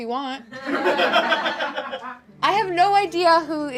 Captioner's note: audience laughs